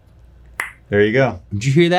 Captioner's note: popping